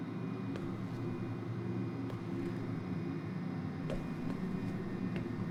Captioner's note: low humming